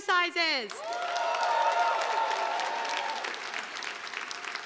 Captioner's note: audience applauding